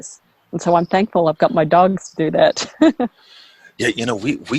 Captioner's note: laughs